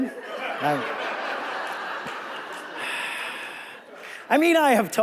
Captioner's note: audience laughing